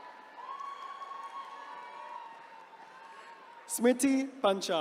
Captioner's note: attendees cheering